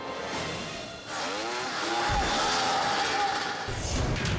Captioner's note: engines rumbling